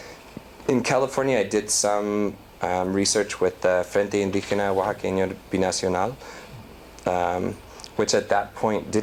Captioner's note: non-english